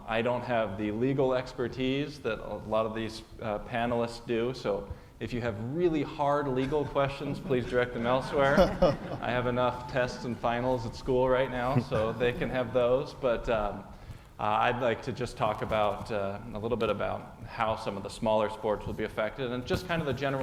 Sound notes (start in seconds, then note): 9.1 laugh